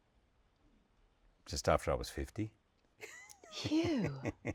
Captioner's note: laughs